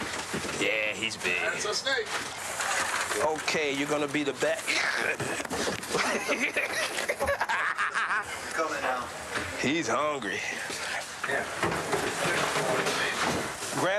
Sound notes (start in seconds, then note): 4.7 laughing